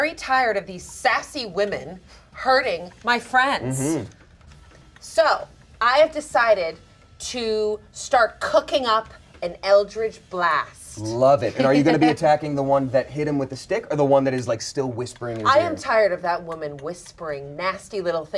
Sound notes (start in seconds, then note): none